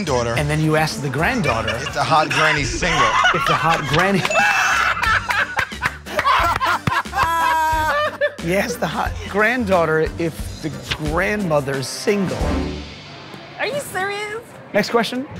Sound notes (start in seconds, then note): 4.2 laughs; 6.0 laughter